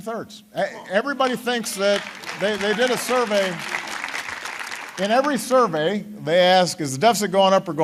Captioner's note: applause